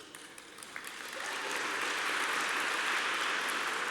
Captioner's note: applause